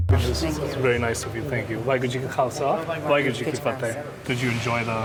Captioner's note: speaking foreign language